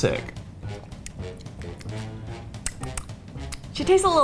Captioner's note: smacks lips